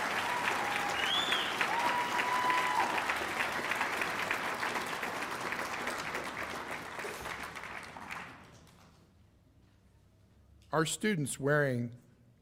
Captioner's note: cheers and applause